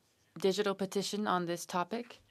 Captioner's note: speaking French